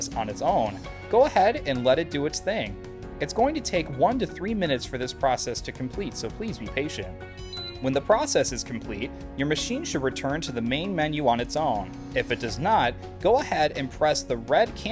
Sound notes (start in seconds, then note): 7.4 beep!